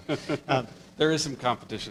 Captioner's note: laughing